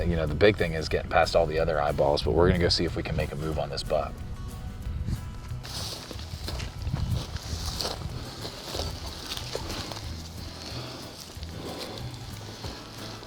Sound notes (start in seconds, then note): 6.7 grass rustling; 9.7 energetic guitar music